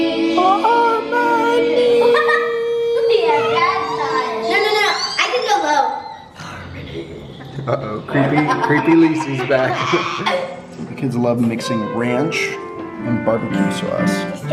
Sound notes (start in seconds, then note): 1.5 kids laughing; 7.4 laughing